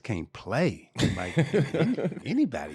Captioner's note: laughing